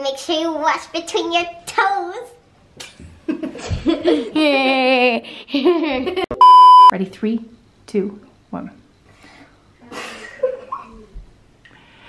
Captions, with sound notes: make sure you wash between your toes [laughing] ready three two one [laughing]